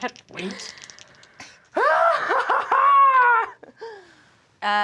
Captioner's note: Kristen laughs manically